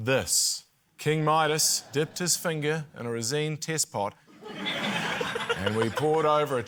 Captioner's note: laughter